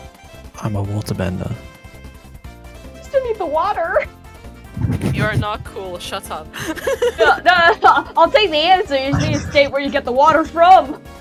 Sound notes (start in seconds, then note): 4.7 chuckles™; 4.7 laughs